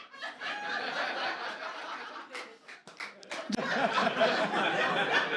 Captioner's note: audience laughs